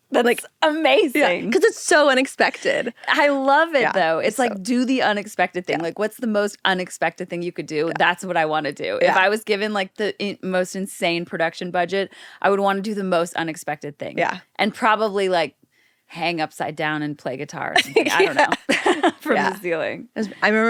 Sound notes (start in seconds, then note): 17.8 laughs